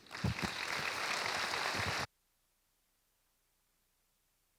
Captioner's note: audience applauding